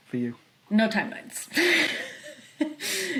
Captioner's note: laughs